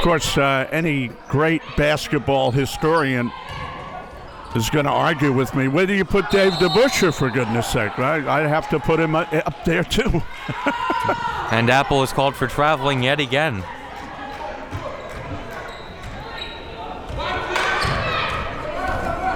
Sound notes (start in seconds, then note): 10.3 laughs